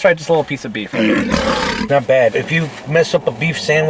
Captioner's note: lion roaring